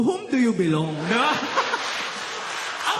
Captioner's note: laughter